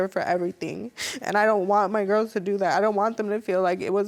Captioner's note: sobbing